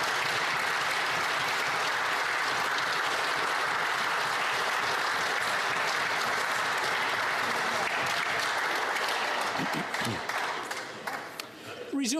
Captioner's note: applause